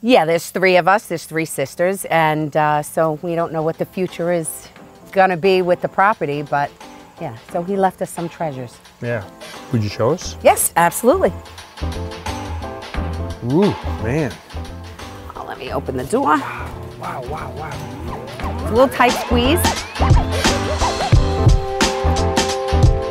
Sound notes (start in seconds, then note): 11.6 upbeat music; 16.9 garage door whirring; 20.3 upbeat music